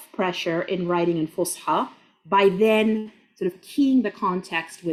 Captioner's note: speaking Arabic